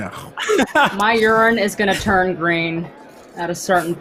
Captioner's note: laughs